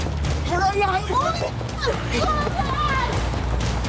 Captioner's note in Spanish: Gritos y exclamaciones